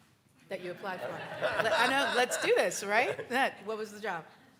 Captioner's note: audience chuckles